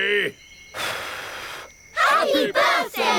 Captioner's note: blows